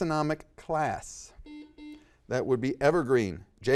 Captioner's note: buzzer dings